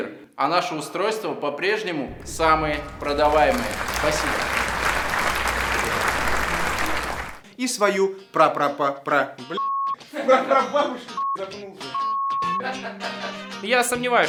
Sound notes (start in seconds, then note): 4.5 applause